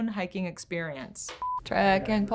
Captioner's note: beep